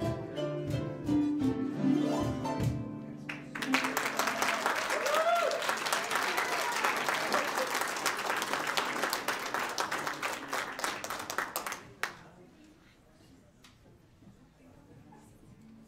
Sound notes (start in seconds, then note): 3.2 audience applauds; 3.5 audience cheers